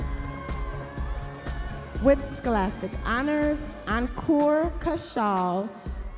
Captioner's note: audience members cheering